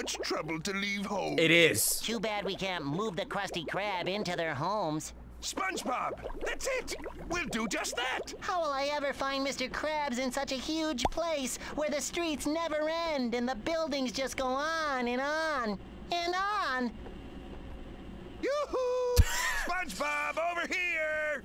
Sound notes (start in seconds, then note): 19.1 laughs